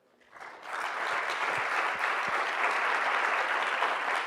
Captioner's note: audience clapping